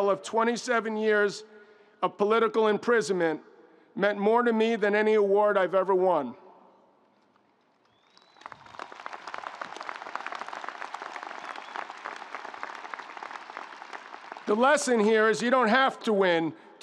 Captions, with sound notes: of 27 years of political imprisonment meant more to me than any award I've ever won. (audience cheering) (audience applauding) The lesson here is you don't have to win